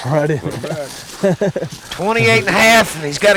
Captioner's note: laughter